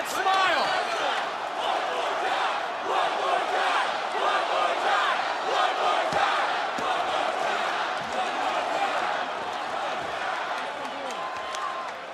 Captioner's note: crowd chants